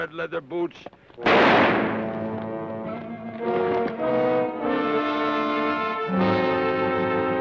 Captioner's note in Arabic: إطلاق نار; موسيقى أوركسترالية مشؤومة